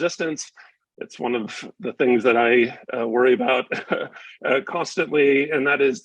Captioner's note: chuckles